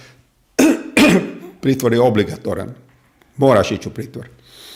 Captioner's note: cough; coughs